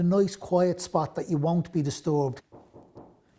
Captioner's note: knocking on door